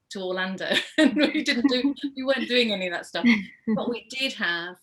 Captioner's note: laughs